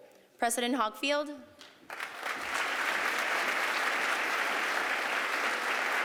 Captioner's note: applause